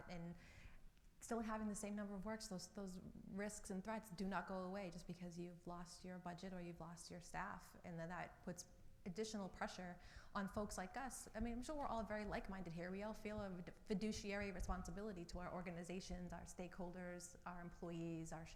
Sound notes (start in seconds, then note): none